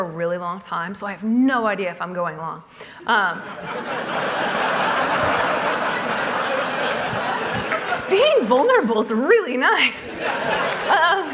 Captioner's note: laughter